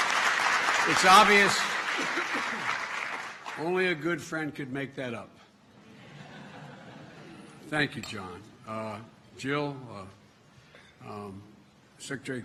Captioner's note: laughter